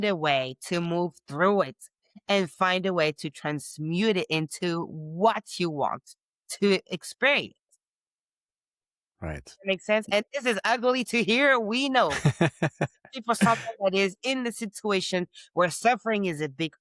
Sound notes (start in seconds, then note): 12.0 laughing